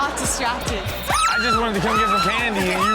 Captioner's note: audience laughs